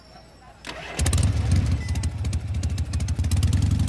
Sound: engine starting

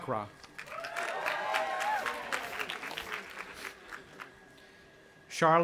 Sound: audience applauding and cheering

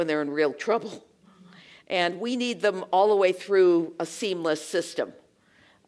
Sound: laugh

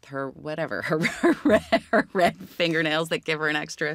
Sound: laughs

